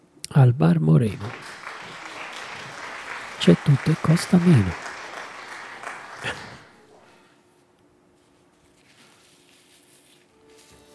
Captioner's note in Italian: Applauso